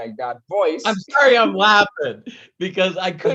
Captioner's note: laughing